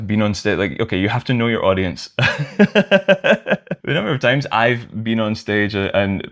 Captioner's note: laughter